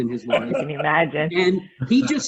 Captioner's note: laughs